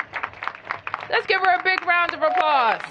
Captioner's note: applause